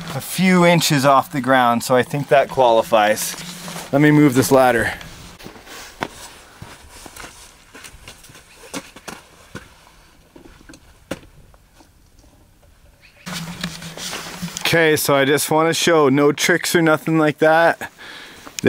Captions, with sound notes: A few inches off the ground so I think that qualifies. Let me move this ladder. (footsteps) Okay so just want to show, no tricks or nothing like that.